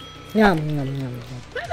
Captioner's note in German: Glockenschlags; mumbled kauend